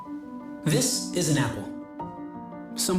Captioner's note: none